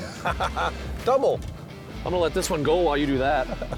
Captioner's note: laughs